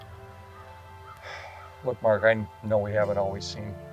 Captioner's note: sighs